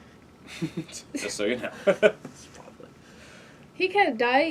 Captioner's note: laugh